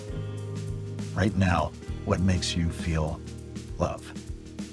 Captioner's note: voiceover